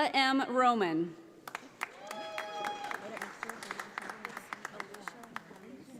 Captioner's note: audience applauding